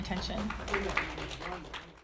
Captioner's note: audience applauding